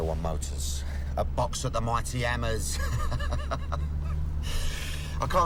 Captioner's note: laughs